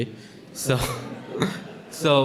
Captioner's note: audience laughing